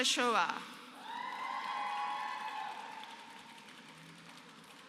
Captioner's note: applause